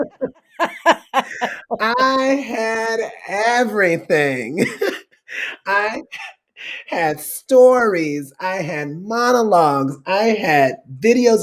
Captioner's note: laughter